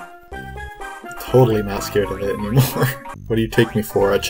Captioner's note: laughs